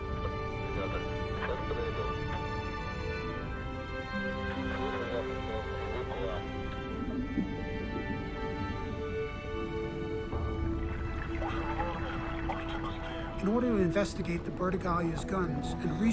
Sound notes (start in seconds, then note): 0.0 man speaking in foreign language; 11.5 diver speaking in foreign language